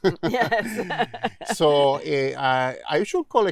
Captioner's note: laughing